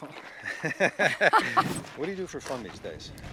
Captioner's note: laughing